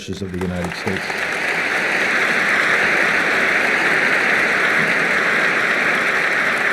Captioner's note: applause